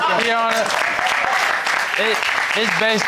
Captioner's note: audience laughing; audience applauding